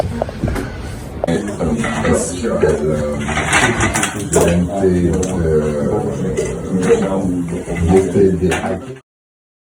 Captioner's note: chatter in the background